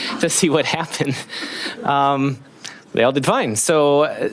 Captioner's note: laughing